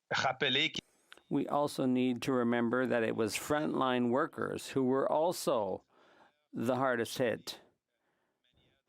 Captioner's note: speaking French